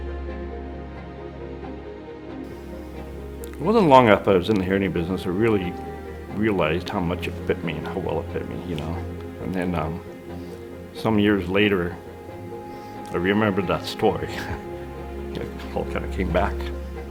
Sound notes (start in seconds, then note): 0.1 soft orchestral music; 12.9 laughs